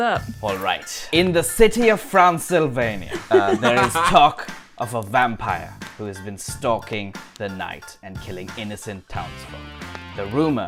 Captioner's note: laughter